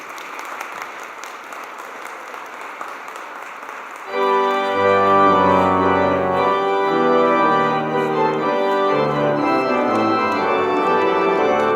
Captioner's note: applause